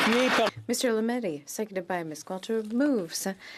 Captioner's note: some Applause